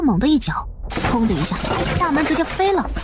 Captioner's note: bang!